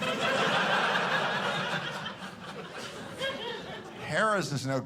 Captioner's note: audience laughing